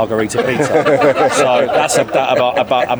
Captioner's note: everyone laughs